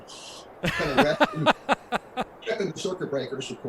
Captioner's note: laughs